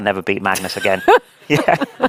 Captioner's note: laughing